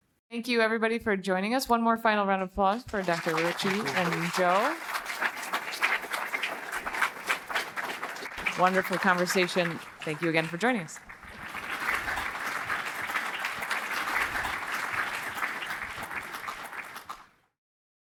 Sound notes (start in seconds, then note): 5.2 audience applauding; 11.5 audience applauding